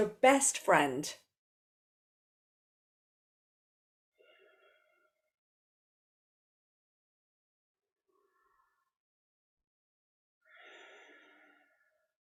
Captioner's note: breathes